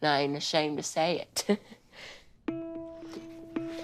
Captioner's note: chuckles